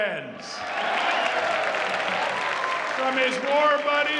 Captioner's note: audience cheering